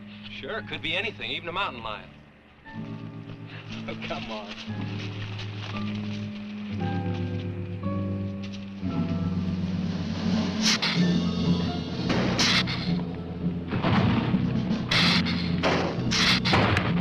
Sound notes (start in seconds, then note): 5.9 dramatic music; 10.8 lizard hissing; 13.9 ground rumbling